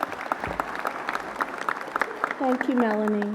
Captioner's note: applause